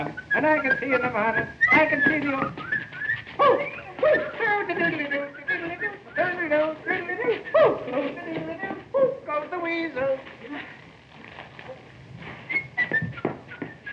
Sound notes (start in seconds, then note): 2.2 harpo whistles gleefully; 4.4 hammer humming; 12.1 harpo continues whistling